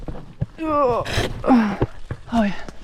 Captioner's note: squelch